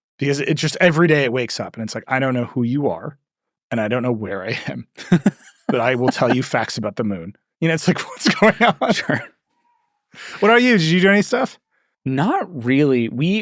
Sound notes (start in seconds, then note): 5.4 laugh; 7.6 laughs